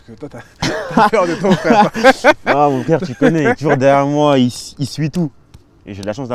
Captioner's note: laughs